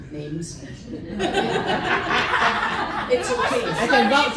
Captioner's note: laughter